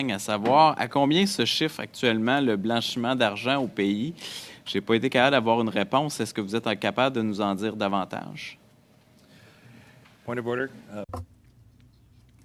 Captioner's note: speaking French